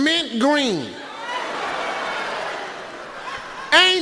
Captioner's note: audience laughs